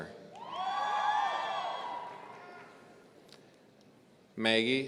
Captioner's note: audience cheering